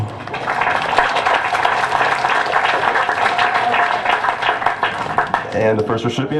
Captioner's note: applause